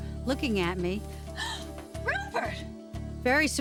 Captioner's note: gasps